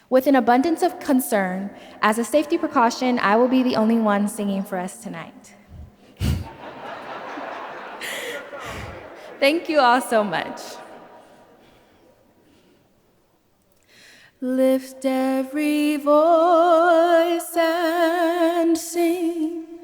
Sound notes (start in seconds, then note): 6.2 laughs; 6.3 audience laughs